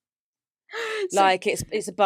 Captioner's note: laughs